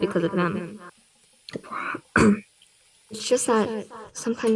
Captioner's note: lucy clears her throat